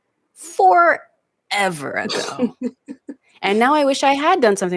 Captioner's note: laughs